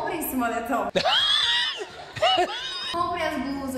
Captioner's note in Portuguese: risos